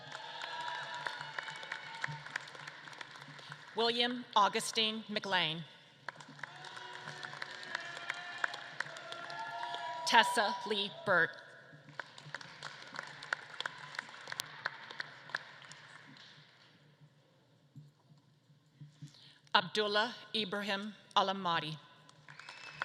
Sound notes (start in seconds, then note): 0.0 audience claps and cheers; 6.0 audience claps and cheers; 11.8 audience claps; 22.1 audience claps and cheers